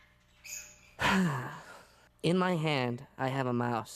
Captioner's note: sighs